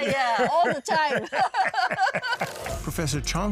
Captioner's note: laughter